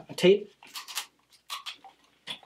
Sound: tape ripping

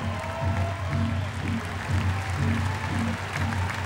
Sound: cheers & applause

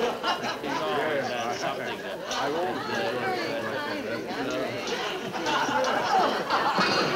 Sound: people chattering; audience laughing

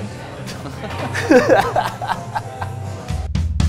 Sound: both laugh

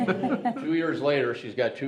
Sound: group laughs

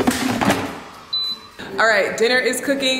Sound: air fryer beeping

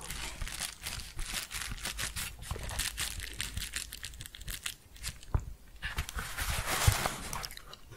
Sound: crinkling and shuffling

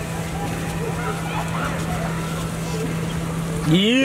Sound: kids shrieking

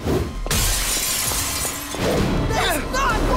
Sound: glass shatters

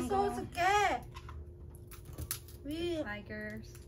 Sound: cracking crabs

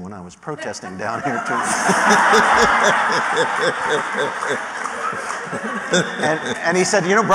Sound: laughter

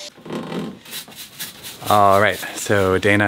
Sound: brush scrubbing

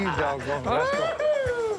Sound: Willie whoops

